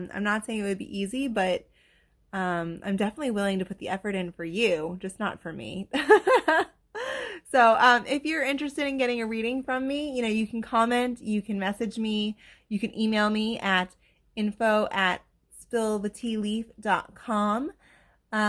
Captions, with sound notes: um, I’m not saying it would be easy, but I’m definitely willing to put the effort in for you, just not for me. (Laughter) So, if you’re interested in getting a reading from me, you know you can comment, you can message me, you can email me at info@spillthetealeaf.com